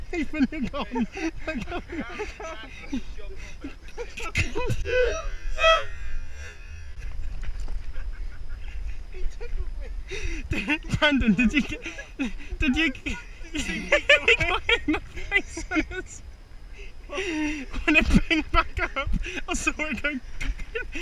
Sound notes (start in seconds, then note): 11.2 brakes out in to laughing; 14.5 continues Laughing